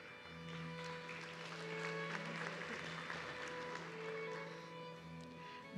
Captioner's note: audience clapping